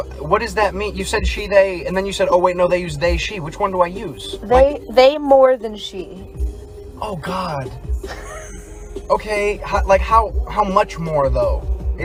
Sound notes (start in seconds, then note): 8.0 laughs